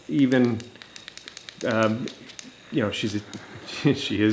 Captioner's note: toy clicking